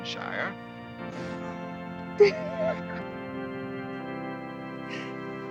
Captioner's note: laughing